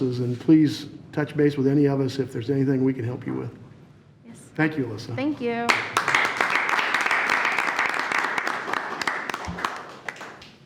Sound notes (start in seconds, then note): 5.6 applauding